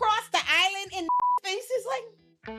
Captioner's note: beep